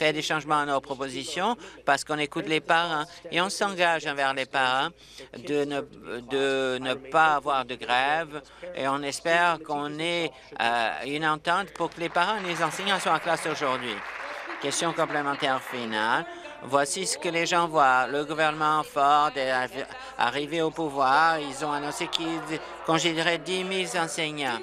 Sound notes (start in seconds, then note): 15.7 applause